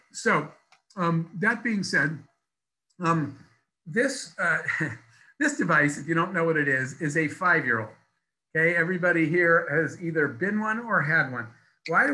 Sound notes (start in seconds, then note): 4.1 laughs